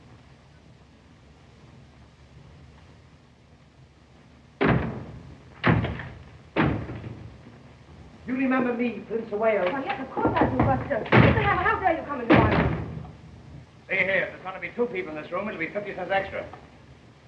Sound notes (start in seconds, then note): none